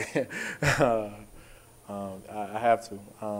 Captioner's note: laughing